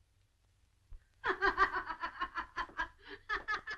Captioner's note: laughing